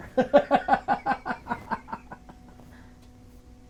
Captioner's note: laughing